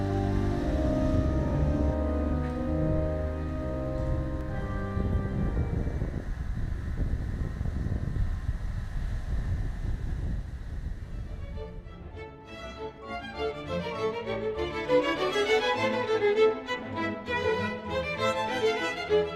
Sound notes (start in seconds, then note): 5.1 wind whooshing; 11.5 bright playful music